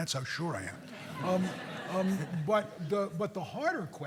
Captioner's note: audience laughing